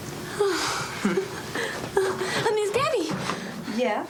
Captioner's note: chuckling